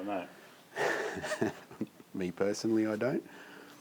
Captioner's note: laughs